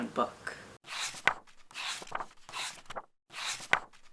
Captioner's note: pages turning